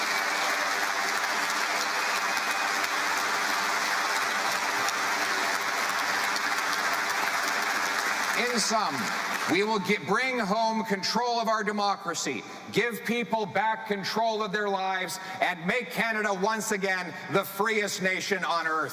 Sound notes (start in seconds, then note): 2.2 cheering and Applause